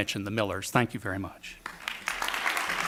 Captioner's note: audience clapping